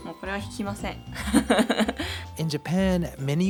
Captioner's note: laugh